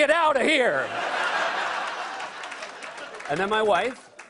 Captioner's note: laughter